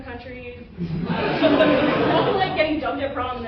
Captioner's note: laughter